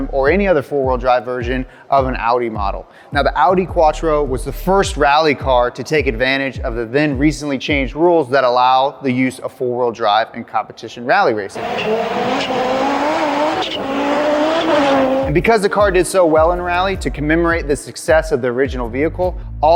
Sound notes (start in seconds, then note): 11.5 engine revving loudly